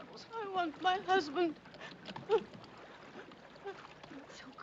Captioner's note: choramingando